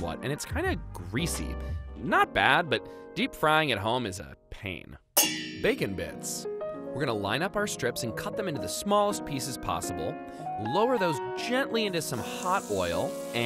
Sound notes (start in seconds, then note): 5.2 pans banging together